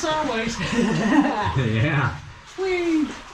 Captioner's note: crazy laugh